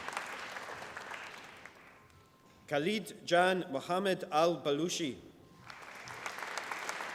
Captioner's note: applause